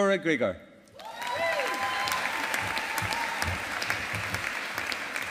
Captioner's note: audience applauding